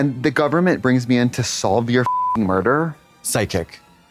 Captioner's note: beep